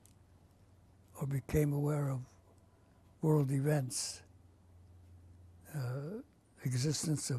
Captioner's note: pauses for 3 seconds